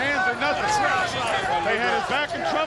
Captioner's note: wrestlers faintly speaking